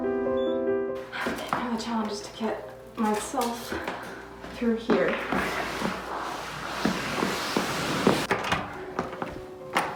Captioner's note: shuffling noises